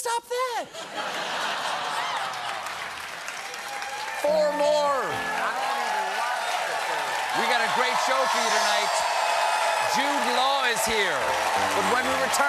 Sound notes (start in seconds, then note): 3.3 applause; 3.3 laughter; 7.7 cheers and applause